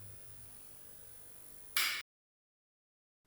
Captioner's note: light switches off